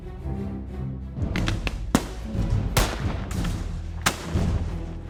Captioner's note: suspenseful music; gunfire banging